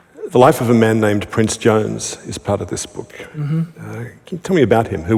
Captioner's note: none